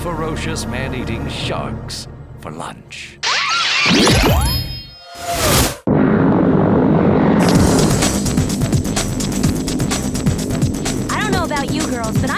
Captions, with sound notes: you'll join a school of ferocious man eating sharks, for lunch. [screaming] [plane flying]